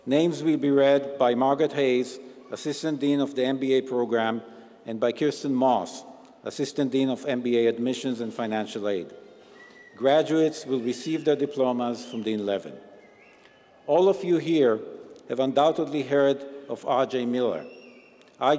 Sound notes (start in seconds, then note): none